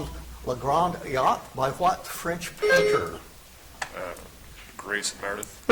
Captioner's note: buzzer chimes